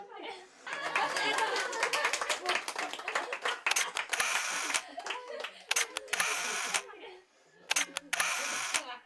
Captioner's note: camera shutters; laughter; applausing